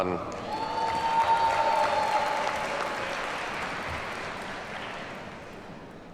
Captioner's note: audience cheers and applauds